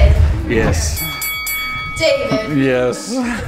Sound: bell ringing

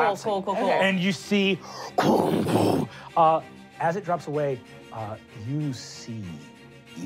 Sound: booming

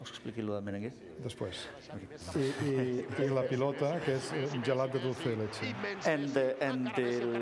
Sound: speaking catalan; speaking catalan

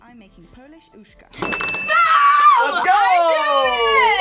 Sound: bell rings

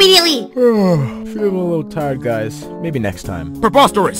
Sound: yawwwn

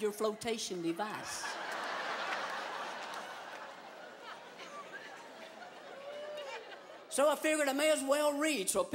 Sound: laughter

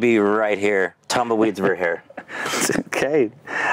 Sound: laughing

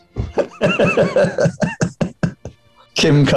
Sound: laughter

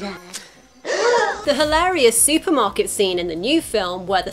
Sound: all gasping

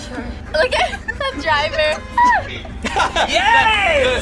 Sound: laughs; both laugh

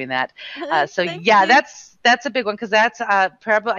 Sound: laughing

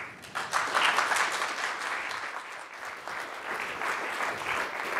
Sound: audience clapping

